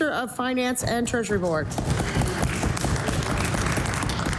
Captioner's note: applause